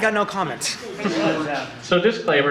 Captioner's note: audience laughter